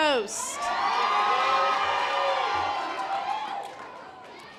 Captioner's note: audience applause